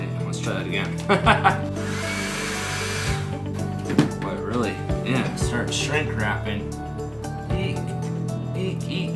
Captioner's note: laughing